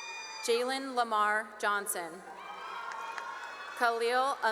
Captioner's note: cheering and applause; cheering and applause